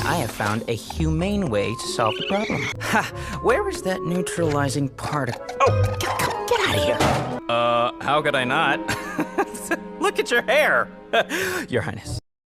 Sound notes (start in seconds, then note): 9.2 laughing